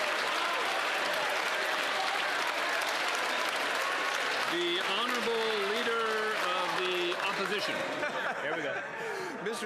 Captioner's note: cheers & Applause